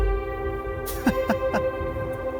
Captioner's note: chuckles